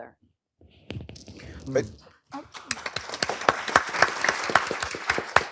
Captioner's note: applause